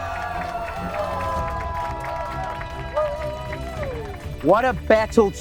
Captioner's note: cheering